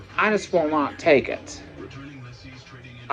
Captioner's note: none